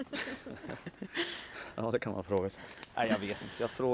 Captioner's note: team laughing